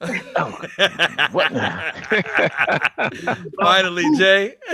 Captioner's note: all laughing